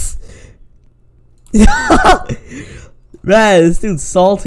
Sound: laughter

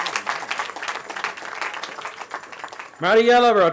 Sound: cheering

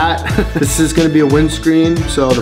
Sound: laughs

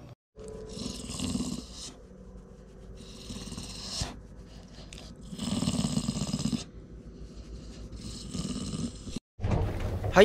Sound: purring

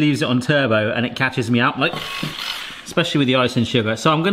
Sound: motor whines

